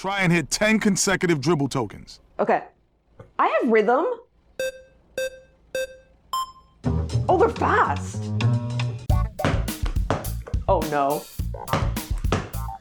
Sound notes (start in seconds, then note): 5.1 starting beeps; 6.8 jazzy bass line; 9.4 funky music